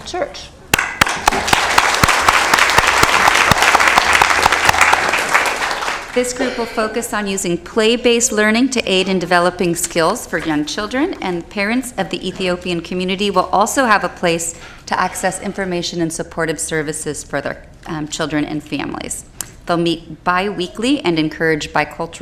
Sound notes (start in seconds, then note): 4.9 applause